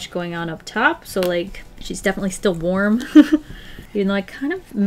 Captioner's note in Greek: Γέλια